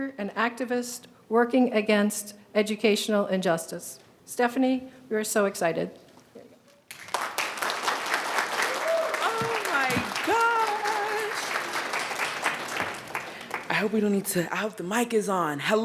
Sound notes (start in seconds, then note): 6.8 attendees applauding